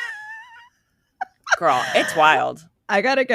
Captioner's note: laughing